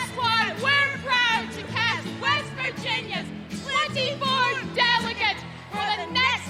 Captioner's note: cheers and applause